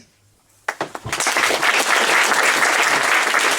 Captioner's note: applause